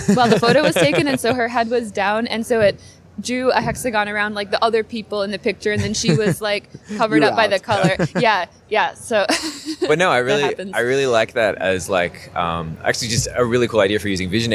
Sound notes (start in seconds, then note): 7.5 laughter